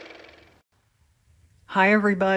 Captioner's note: car motor